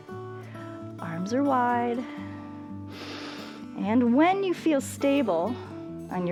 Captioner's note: inhales